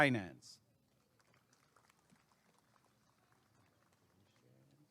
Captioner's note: applause and cheering